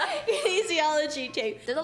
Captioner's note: laughs